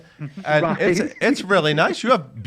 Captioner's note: laughs